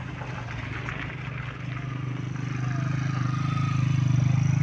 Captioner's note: applause